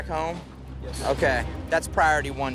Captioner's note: muttering affirmatives